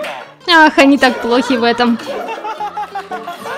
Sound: the members are laughing out loud

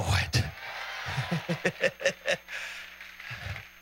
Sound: laughs

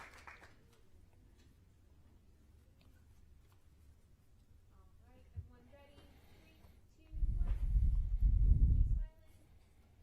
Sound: applause

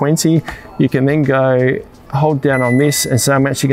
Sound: control panel dings

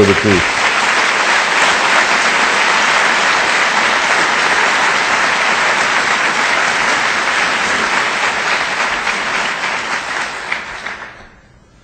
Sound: audience applause

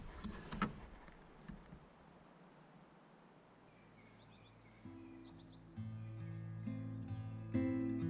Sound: birdsong

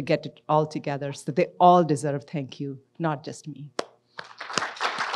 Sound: claps; audience applauds

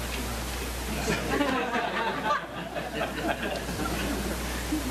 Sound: laughter

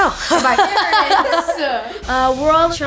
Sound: laughing

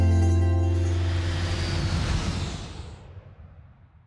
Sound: jet engine roars

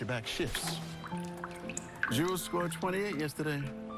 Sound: water dripping

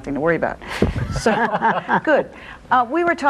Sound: all laugh

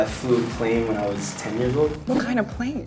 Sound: propellor noises

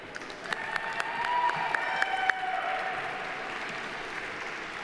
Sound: audience applauding

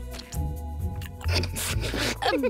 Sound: laughing

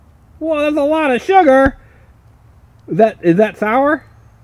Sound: voiceover

